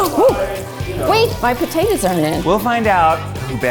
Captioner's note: gasps